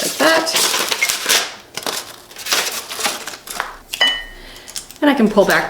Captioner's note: paper crinkling